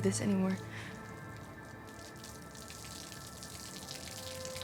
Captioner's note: water splashing